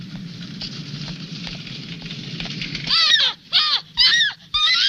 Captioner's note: woman screaming